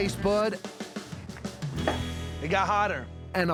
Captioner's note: stomps ground